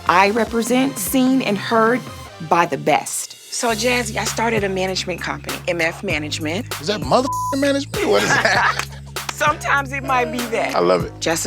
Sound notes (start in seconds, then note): 7.6 laughing